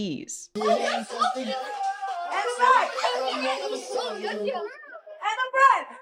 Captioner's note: muffled overlapping chattering